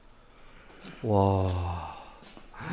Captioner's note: gasps